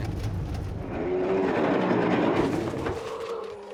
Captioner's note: bears roar